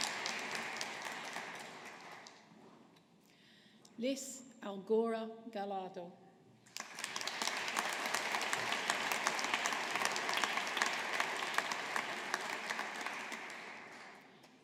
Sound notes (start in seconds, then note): 6.7 audience applauding